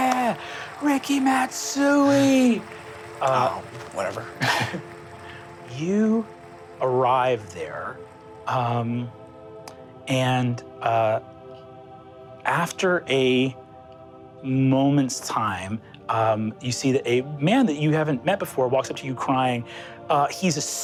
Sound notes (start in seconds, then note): 3.0 applause; 4.1 laughs